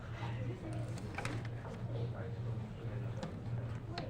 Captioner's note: people chattering